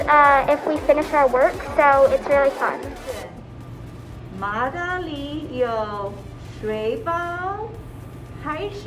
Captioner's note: speaking Mandarin